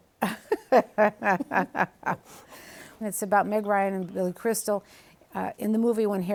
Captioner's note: laughs